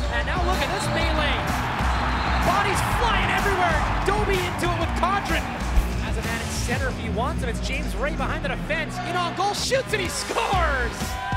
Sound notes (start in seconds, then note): 1.7 whistle blowing